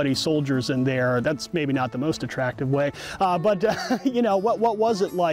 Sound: laughs

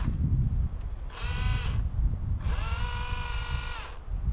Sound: motor whirring

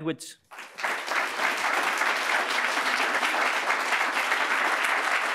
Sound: congregation clapping

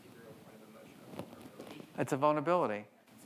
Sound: speaking faintly

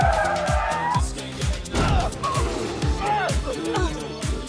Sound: tires squealing; bear growling; grunts

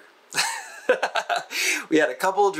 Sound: laughs

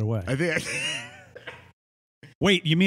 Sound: laughs

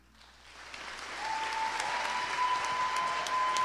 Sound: cheers and applause

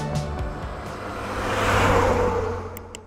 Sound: music concludes; truck drives; click

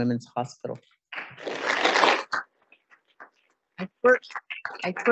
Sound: audience applauding

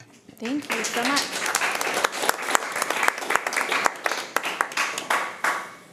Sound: committee applauding

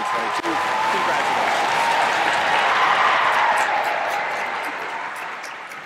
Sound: applause

